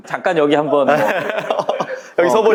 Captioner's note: laughs